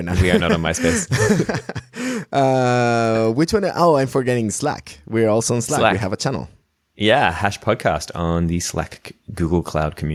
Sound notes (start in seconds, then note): 1.7 laughter